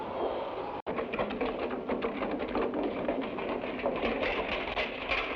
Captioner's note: barrel rumbles